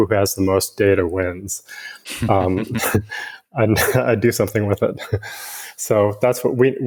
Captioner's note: chuckles